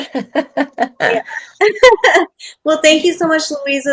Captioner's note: laughs